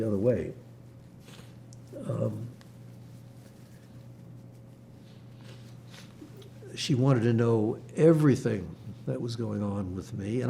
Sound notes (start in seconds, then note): 0.6 wiping nose; 0.7 pauses 6 seconds